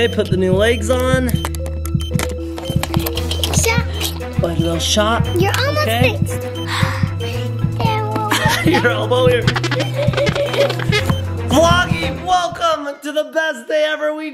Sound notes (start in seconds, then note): 6.6 exhales; 8.1 laughs